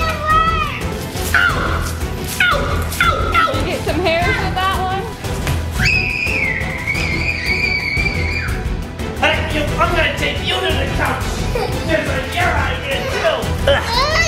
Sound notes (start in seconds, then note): 5.8 screams